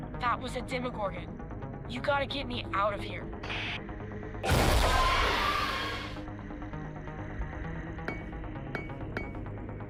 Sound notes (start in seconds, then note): 4.8 screech; 8.7 tapping on glass